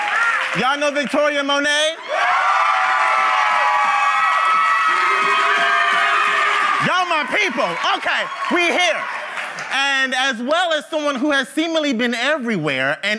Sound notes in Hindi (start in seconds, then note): 2.1 भीड़ द्वारा जय जयकार करते हुए